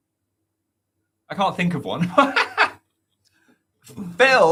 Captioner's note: laughs